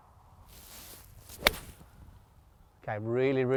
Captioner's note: club strikes